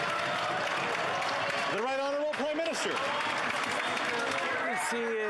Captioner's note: applause